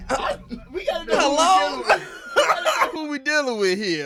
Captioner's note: laughing